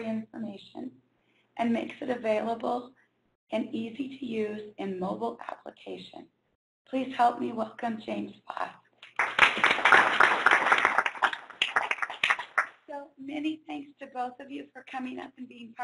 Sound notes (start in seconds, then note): 9.0 applause